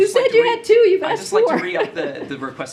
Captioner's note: laughs